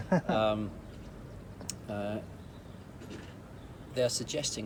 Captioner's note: laughs